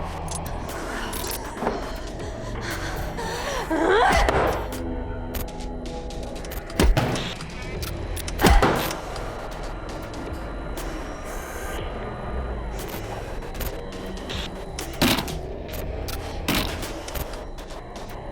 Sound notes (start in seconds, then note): 3.7 Kira grunts; 5.3 transition clicks; 6.9 bone strikes door; 8.1 transition clicks; 8.4 bone strikes door; 9.5 camera whirring; 12.7 tense dramatic music; 15.0 bone strikes door; 16.5 foot strikes door